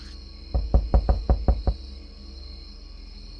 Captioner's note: knocking